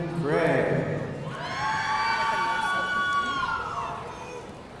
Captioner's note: audience cheering